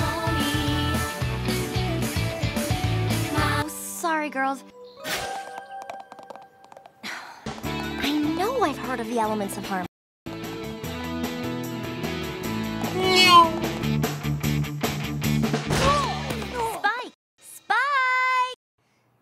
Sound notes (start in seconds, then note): 7.0 annoyed_sigh.wav